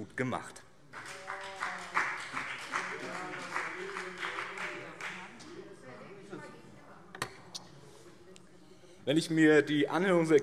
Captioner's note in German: Beifall BÜNDNIS 90/DIE GRÜNEN